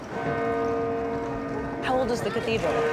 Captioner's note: bell tolling